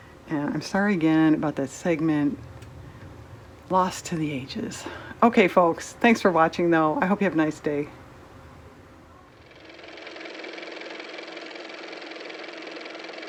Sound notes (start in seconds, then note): 9.4 car motor